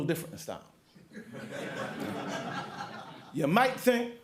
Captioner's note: laughter